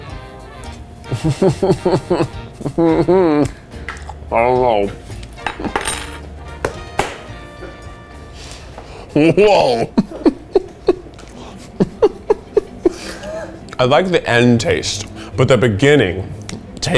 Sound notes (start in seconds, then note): 1.1 laughs nervously; 9.1 laughs